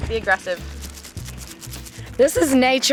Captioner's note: seeds rattling